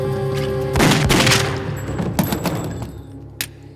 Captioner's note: guns firing; suspenseful music